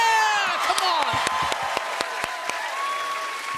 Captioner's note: audience cheering